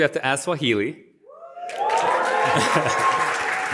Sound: cheering and applause

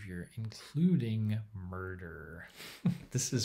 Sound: chuckles

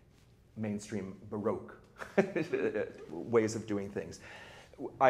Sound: chuckles

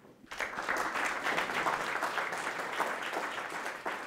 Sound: applause

